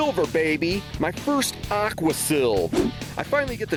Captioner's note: hard rock instrumental; swooshing